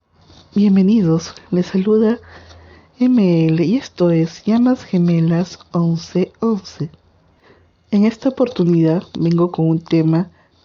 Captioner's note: in spanish